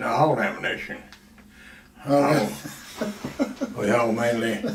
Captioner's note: laughs